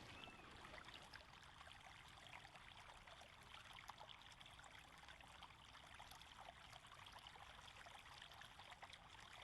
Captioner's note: river flowing